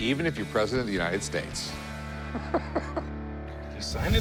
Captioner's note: laughs